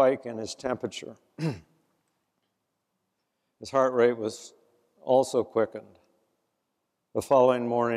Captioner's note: cough